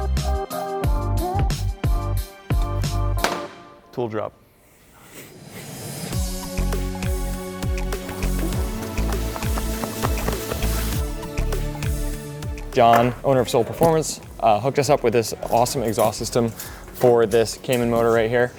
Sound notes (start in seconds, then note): 3.2 tool thuds; 5.5 bright music